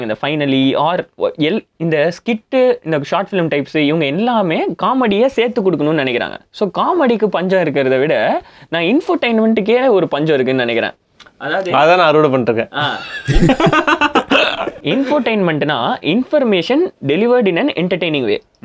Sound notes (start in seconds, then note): 12.8 group laughs